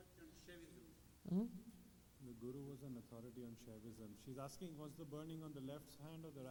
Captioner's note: “He doesn’t know” and speaks in Hindi